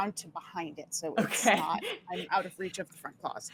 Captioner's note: laughing